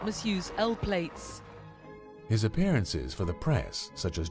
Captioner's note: voiceover